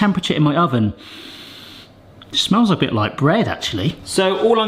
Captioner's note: sniffs deeply